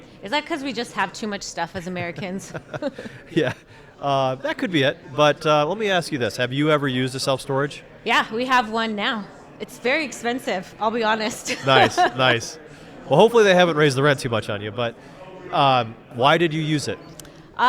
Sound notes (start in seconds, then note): 3.5 both laugh; 11.4 laughs